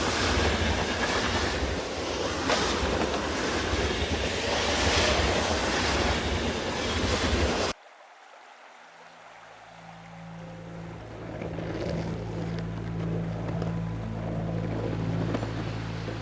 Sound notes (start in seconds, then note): 8.0 eerie music; 8.0 stream flowing; 10.4 skateboard rolling